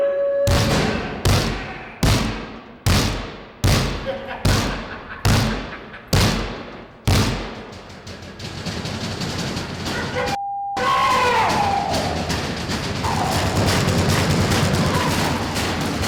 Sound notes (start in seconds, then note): 0.4 banging; 4.0 laughter; 8.3 banging, shouting